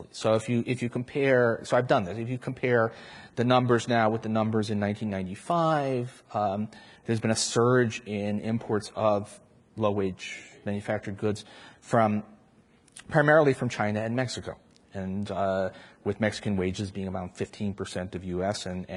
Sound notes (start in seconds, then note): none